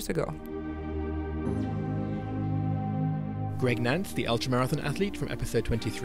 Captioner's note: voiceover